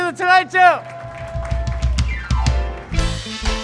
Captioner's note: cheers and applause